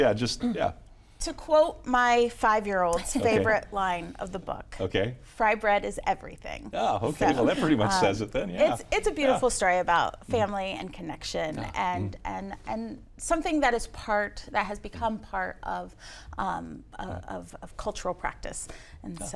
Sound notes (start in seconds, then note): 3.1 chuckles